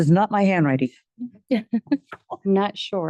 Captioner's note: board members laugh